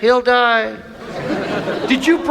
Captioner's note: audience laughs